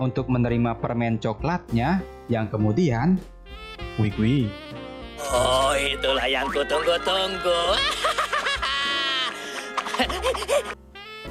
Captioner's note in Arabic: يضحك